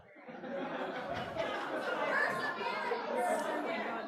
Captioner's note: laughter; uproar